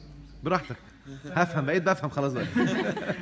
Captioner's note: laughs!